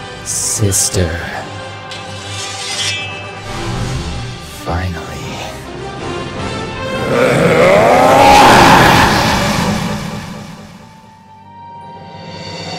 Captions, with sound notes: Sister... Finally. [Growling] [Roars]